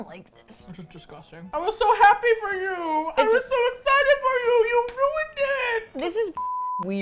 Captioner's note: mournfully